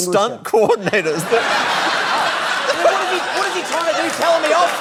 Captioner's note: laughter